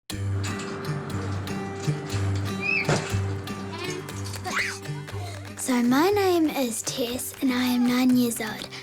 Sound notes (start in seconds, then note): 0.0 playful music; 2.5 squeals